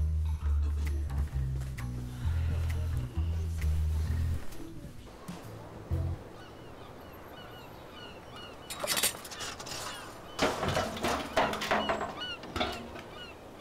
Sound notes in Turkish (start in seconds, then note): 6.3 Martı sesleri; 8.6 Anten sökme sesi; 10.2 Anten yuvarlanma sesi